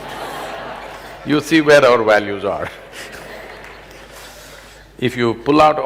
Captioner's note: laughter; laughs